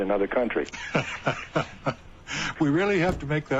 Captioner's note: laughs